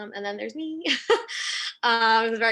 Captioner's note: laughs